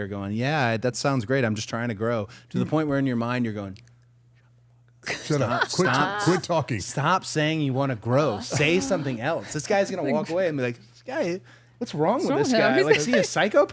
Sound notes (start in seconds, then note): 4.5 whispering; 5.1 participants laughing; 9.0 participant sighing; 12.6 participant laughing